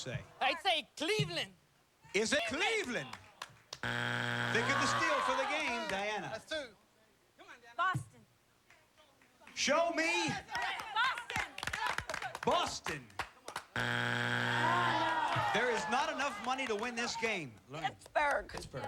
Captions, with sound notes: I'D SAY CLEVELAND. IS IT CLEVELAND? [buzzer] THINK OF THE STEAL, FOR THE GAME. DIANA. BOSTON. SHOW ME... BOSTON. [buzzer] THERE IS NOT ENOUGH MONEY TO WIN THIS GAME. PITTSBURGH. PITTSBURGH.